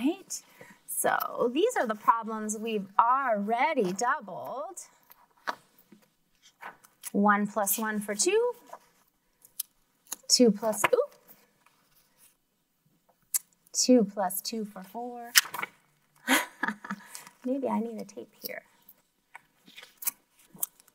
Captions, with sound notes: Alright, so these are the problems we already doubled. One plus one for two. Two plus oop. Two plus two for four. (laughs) Maybe I need to tape here.